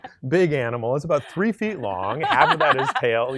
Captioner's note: laughing